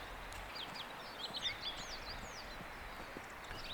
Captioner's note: none